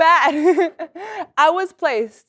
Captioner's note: laugh